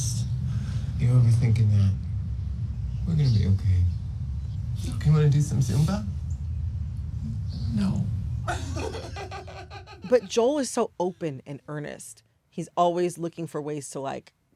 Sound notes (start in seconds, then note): 8.4 laughter